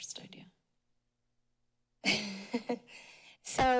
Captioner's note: chuckling